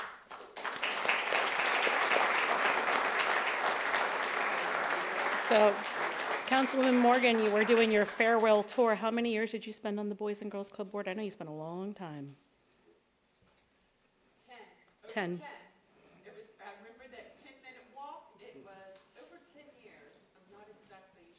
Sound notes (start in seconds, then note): 4.4 applause